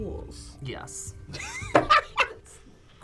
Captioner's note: laughs